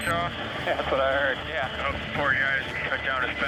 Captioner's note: laughs